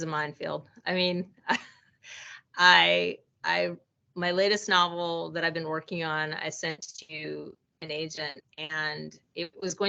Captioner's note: chuckling